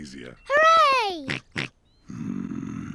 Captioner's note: snorts